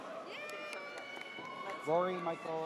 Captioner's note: audience cheers